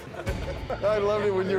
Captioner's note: everyone laughing; group laughing